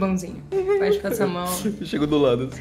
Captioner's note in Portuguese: sons de fofura